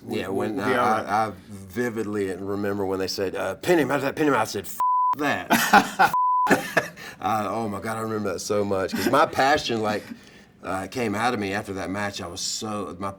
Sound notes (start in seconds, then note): 5.2 Matt laughing; 6.1 beep